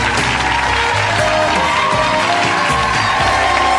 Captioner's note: upbeat music; audience applauding